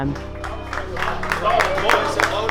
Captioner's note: wrestlers applauding